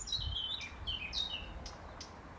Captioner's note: birds chirping